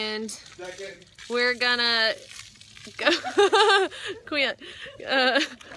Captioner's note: laughs